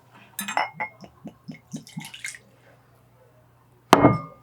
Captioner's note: sound of pouring alcohol